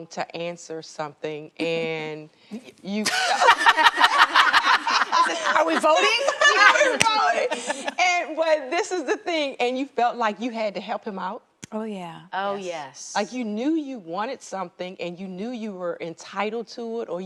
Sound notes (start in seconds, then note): 3.0 ladies laughing